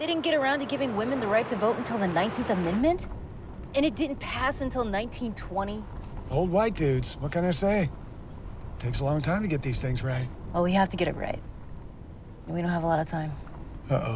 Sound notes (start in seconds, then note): none